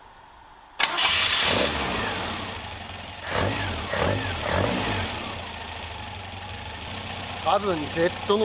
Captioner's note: engine whirring